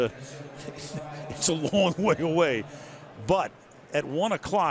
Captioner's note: chuckles